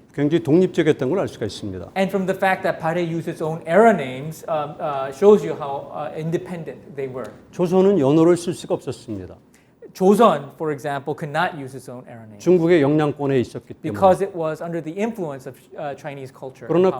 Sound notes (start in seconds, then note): 7.7 speaking in Korean; 12.6 speaking in Korean